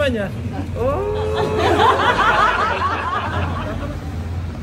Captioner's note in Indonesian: tertawa